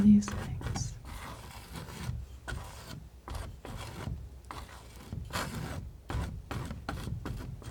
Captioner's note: scratching